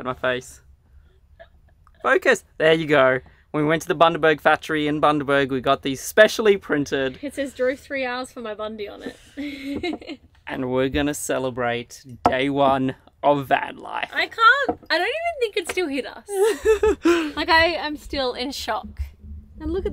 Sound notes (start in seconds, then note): 9.0 laughing; 16.3 laughing